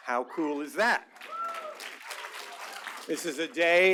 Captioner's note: applause